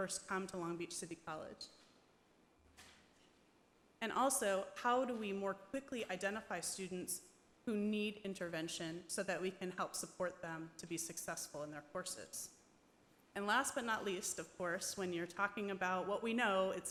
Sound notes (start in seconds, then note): none